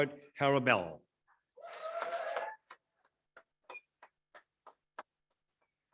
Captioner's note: audience appluades